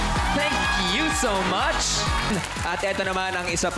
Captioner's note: audience cheers